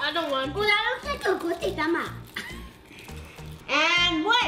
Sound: speaks gibberish

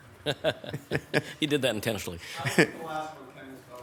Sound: laughing

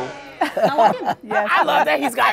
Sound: laughs

